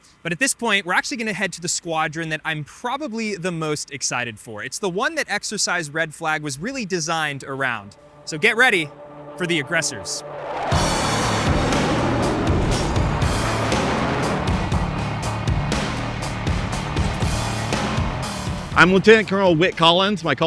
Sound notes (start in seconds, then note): 10.6 jet engine roaring; 13.6 ominous music